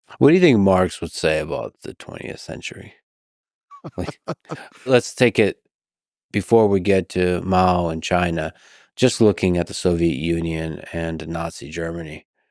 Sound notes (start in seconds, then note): 3.8 chuckles